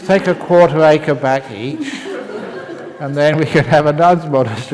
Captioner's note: laughter